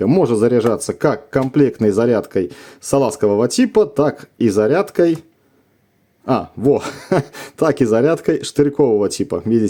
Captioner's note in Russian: смех